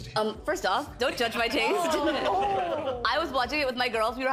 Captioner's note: group laughing